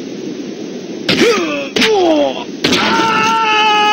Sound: grunting

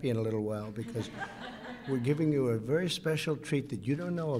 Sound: laughter

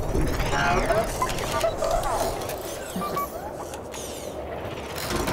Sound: beeping

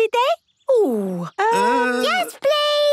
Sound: snorting and giggling

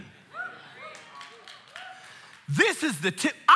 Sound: congregation cheering and applauding

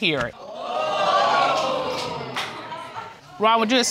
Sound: audience exclaims

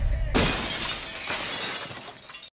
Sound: glass shatters

